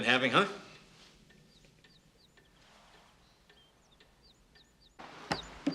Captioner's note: birds chirping